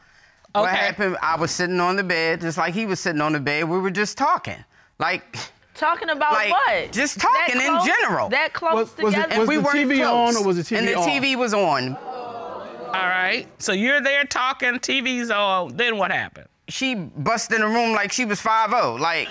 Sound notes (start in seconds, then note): 10.8 audience exclaims